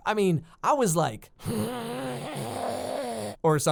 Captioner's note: hideous gasp